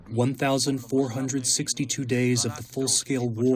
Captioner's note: through translator